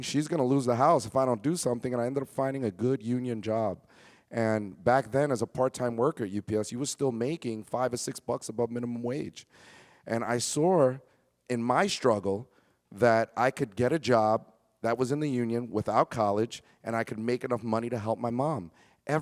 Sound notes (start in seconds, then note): none